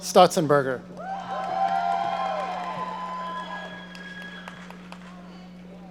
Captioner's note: audience cheering